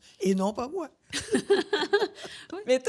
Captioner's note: laughs